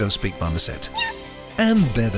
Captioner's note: monkey squeaking